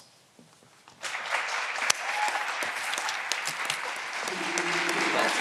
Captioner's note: all clapping